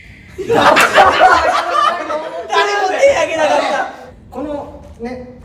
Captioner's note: laughs